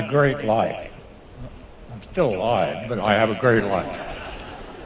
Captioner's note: laughter